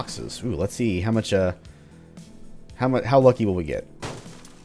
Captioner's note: smash